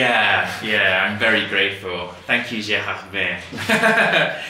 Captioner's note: rires